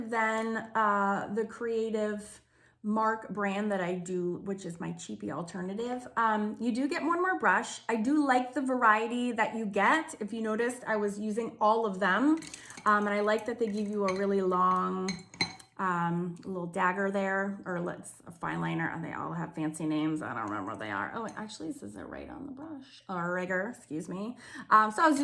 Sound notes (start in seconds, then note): 12.3 brushes tinkering